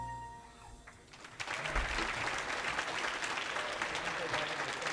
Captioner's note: audience applauding